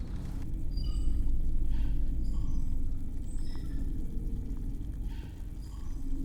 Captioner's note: distant squeaking; water burbling